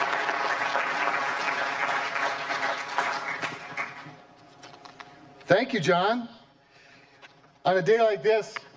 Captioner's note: applause